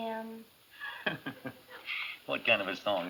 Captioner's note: chuckles